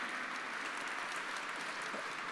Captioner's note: applause